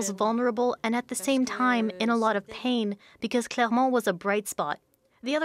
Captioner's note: speaking french language